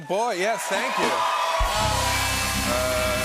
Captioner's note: cheers and applause